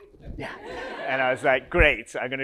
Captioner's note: audience laughs